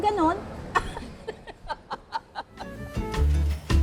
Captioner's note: laughs